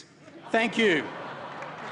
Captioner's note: applause